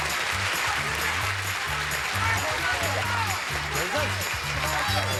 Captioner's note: audience applauding